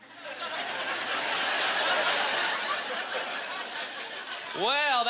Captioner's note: audience laughter